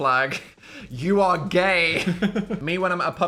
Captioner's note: Phil laughing